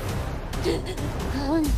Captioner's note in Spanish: Sollozos